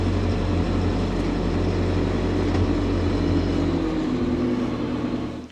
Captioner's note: machinery rumbling